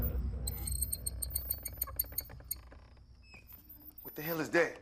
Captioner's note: dramatic swoosh; door creaks